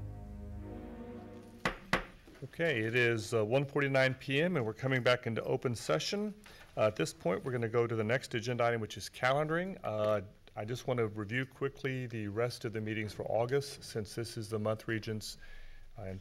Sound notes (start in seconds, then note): 1.6 gavel bangs